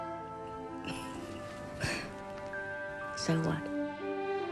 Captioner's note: Jill laughs; soft music